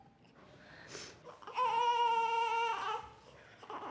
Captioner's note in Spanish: bebé llora